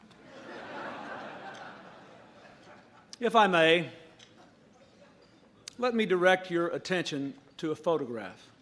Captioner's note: laughter